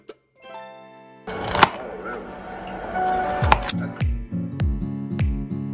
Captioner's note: chopping